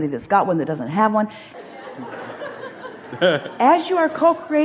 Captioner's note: audience laughs; laughs